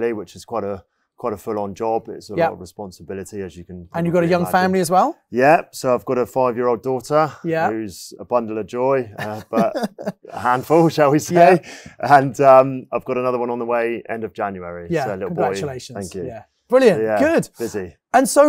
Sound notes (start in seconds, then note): 9.0 laughs